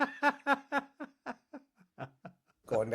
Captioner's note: laughing